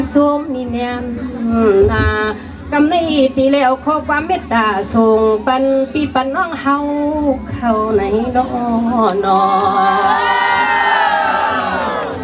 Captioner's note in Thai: ปรบมือ